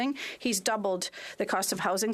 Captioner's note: speaking French